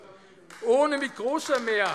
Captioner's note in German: Beifall AfD